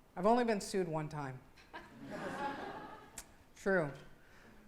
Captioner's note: laughing